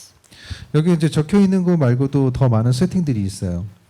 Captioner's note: speaking korean